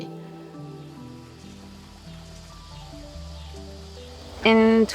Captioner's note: cicadas chirping